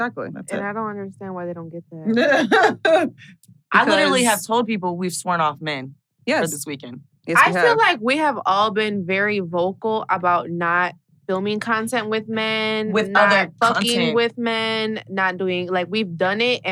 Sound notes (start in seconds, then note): 2.1 laughs